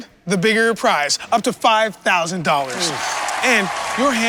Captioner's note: audience applause